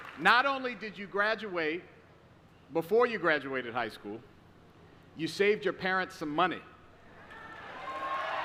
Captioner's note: applause